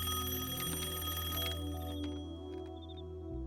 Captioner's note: rings